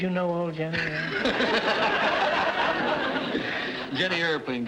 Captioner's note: audience laughter